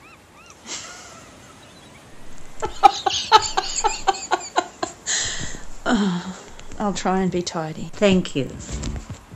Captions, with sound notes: [Laughes] [Sighs]… I’ll try and be tidy mum! Thank you!